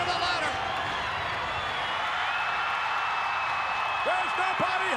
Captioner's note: crowd cheering continues